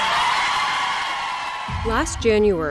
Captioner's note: cheers